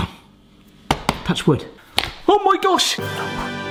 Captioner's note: hand taps